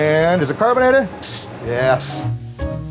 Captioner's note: gas hisses